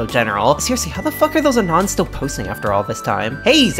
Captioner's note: quietly